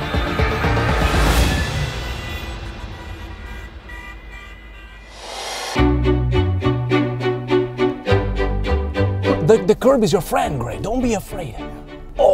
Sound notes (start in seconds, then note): 0.0 dramatic orchestral music; 3.3 horns honking